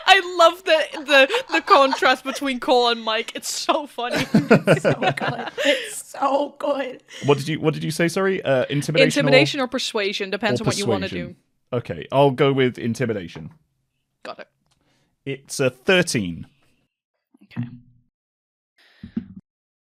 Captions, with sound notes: (Laughing) I love the contrast between Kol and Mike, it's so funny! [Laughter] (Laughing) It's so good. It's so good! What did you say sorry? Intimidation or... Intimidation or Persuasion, depends on what you want to do. Or Persuasion, ok. I'll go with Intimidation. Got it. It's a 13.